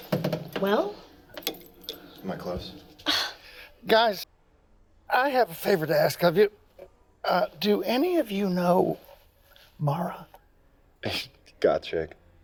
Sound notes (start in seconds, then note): 3.0 disgusted Sighing